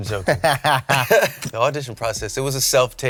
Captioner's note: chuckling